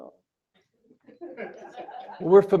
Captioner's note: laughter